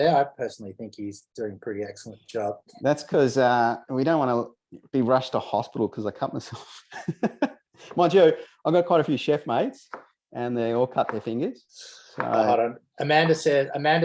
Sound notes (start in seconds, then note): 6.8 laughs